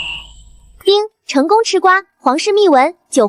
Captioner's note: ding!